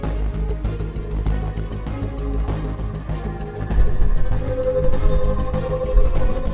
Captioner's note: eerie hum; heartbeat speeding up